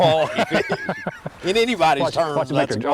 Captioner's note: laughter